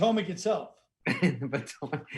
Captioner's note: laughing